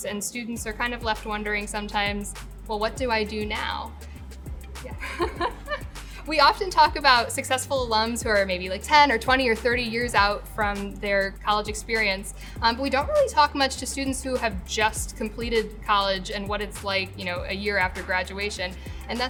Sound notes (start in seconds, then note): 4.1 soft music; 4.9 laughs